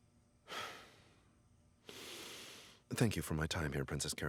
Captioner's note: heavy sighing